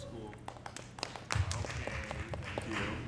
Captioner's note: audience clapping